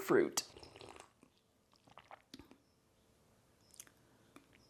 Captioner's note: quiet drinking sounds